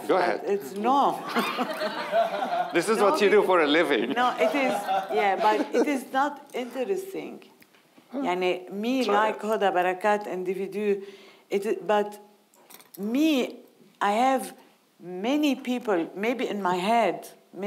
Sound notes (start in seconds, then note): 1.3 audience laughing